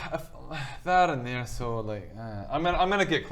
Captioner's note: sigh